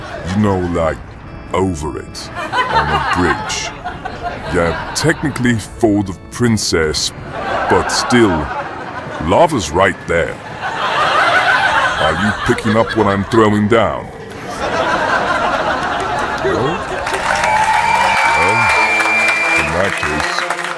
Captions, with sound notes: You know like over it on a bridge. Yeah, technically for the princess but still.. lava is right there. [Audience laughing] Are you picking up what I'm throwing down? [Audience laughing] no [Audience cheering] Well.. In that case..